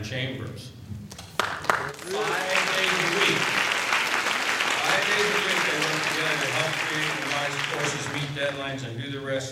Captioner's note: applause